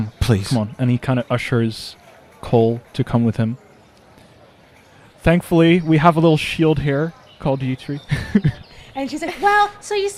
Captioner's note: chuckles